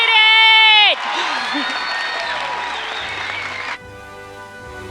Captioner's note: audience cheers; audience applauds; slow orchestral music